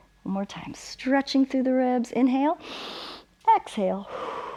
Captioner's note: exhales; inhales